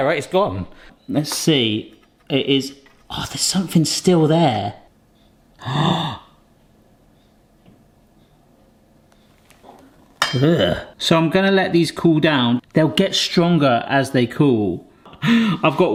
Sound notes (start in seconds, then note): 5.6 gasps